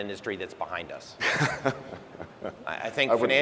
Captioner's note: laughing